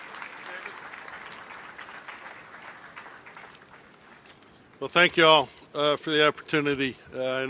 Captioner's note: applause